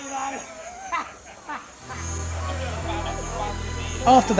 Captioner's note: laughing